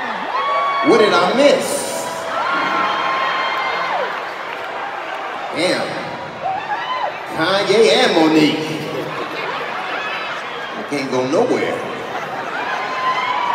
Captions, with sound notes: What did I miss? (audience cheering) Damn. Kanye and Mo'Nique. I can't go nowhere.